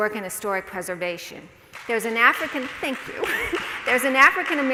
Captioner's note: more scattered applause